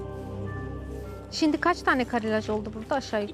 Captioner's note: speaking Turkish